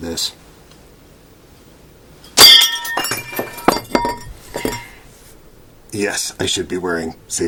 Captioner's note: glass tink, glass scattering